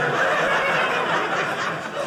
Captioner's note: audience laughing